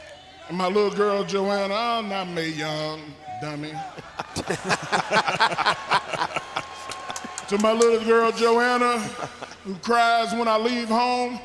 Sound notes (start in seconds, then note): 3.4 commentators laughing